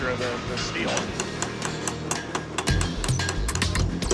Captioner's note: pounding and thudding